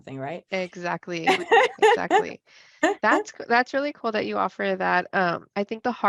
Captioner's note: laughs